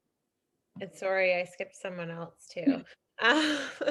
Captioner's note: chuckles